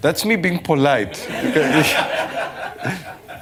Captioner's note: laughter